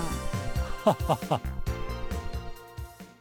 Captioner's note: chuckle